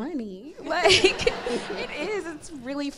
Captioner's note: crowd laughs